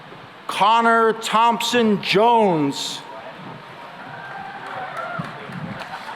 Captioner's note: cheering and applause